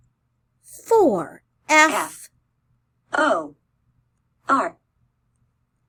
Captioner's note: computer voice